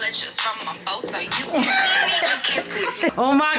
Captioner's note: both laughing